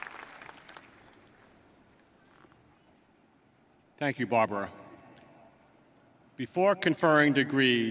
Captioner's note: applause